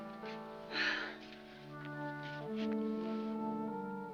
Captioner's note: sighs